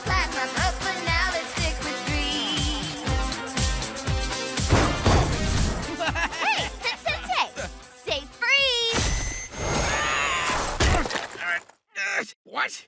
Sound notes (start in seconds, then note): 3.1 upbeat music; 4.6 pounding; 5.9 laughs